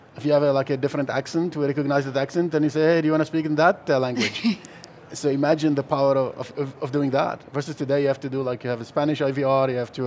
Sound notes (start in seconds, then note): 4.2 laughs